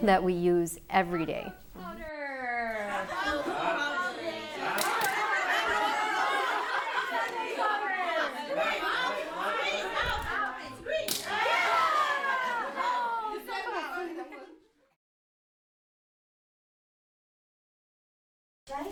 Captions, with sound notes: that we use every day. Cockroach powder! [LAUGHTER] Cockroach powder! Speak. Yeah! Oh, so close!